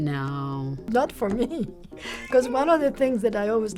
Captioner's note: laughs